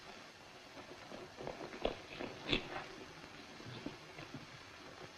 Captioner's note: footsteps